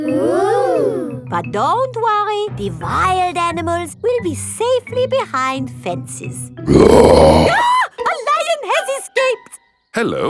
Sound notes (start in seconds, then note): 6.6 roars; 6.7 screams